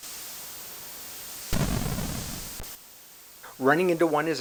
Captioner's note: scraping and then a booming sound